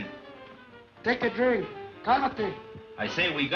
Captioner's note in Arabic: يتحدث الإسبانية